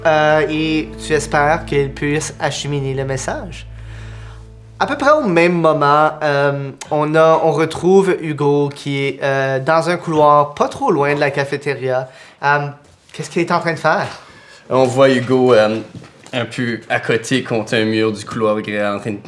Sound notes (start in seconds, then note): none